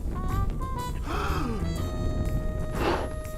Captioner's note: gasps; blows softly